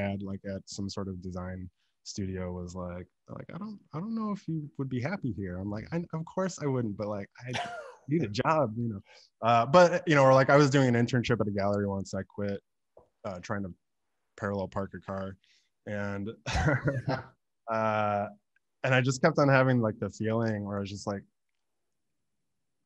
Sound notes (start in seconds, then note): 7.4 laughing; 16.5 laughs